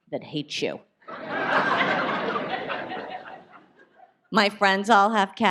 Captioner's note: audience laughs